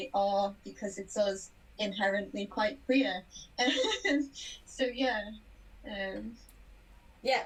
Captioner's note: laughs